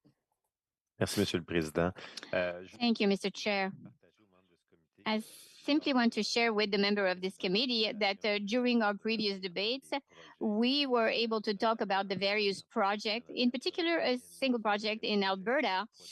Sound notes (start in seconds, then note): 8.6 speaking French